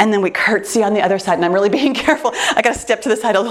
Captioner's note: laughs